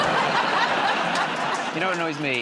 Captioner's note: laughter